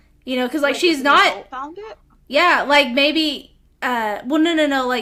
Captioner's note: none